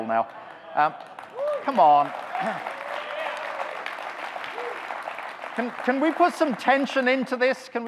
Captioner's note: audience clapping